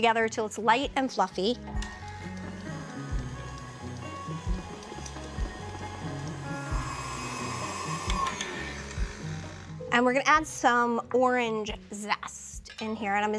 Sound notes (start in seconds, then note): 3.5 mixer whirring; 8.2 mixer stops whirring